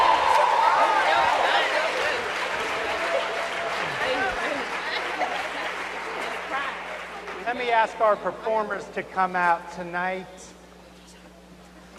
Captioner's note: cheers and applause